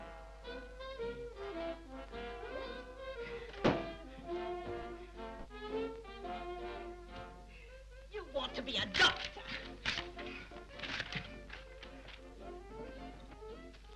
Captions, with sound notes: (canvas thuds) You want to be a doctor! (paper tears)